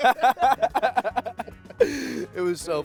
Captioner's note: laughing